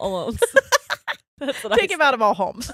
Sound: both laughing

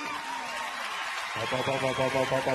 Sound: audience cheering

